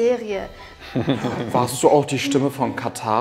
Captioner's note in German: Leises Lachen